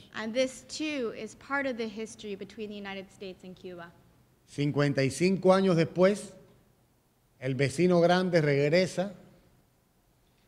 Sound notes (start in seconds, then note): 4.0 speaking in Spanish